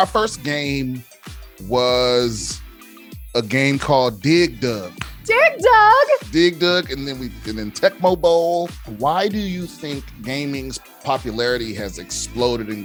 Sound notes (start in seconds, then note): 4.6 hands clapping